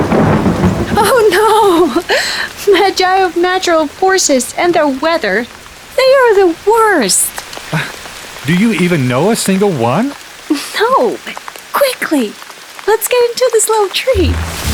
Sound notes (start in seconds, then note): 0.0 thunder claps; 7.6 sighs